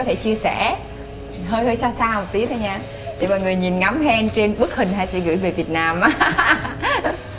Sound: laughing

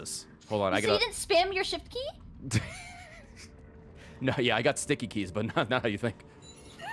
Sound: laughs

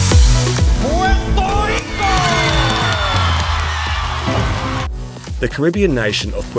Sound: crowd cheering

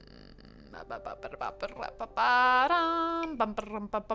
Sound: vocalizing rhythmically

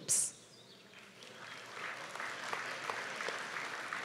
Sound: applause

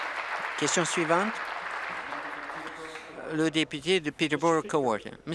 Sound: applause

